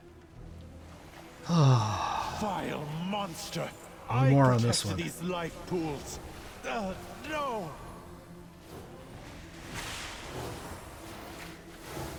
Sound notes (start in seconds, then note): 1.4 sigh